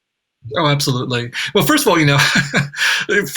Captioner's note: laughs